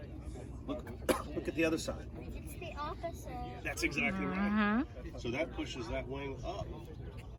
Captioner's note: mmhmm